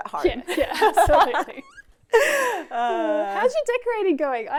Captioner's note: laughing